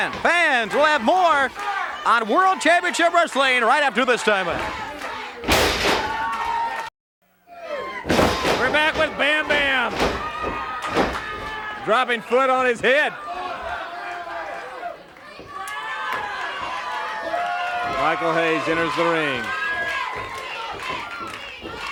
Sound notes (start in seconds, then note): 5.7 body thuds